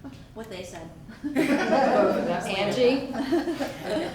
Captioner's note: audience laughs